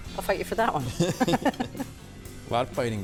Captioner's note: laughing